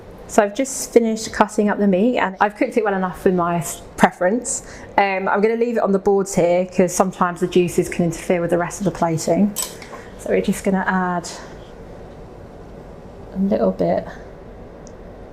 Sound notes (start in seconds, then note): none